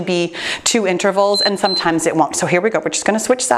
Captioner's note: timer beeps